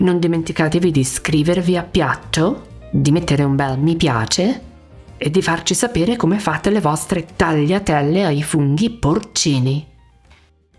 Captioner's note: speaking Italian